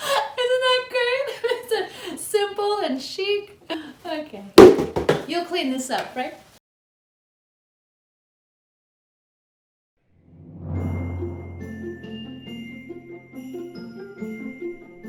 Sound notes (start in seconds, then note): 4.8 crashing